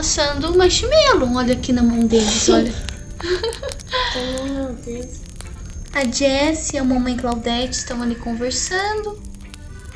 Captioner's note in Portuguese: risos rsrsrs